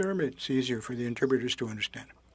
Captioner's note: speaking French